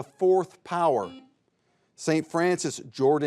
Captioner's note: buzzer buzzes